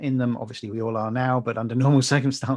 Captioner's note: laughing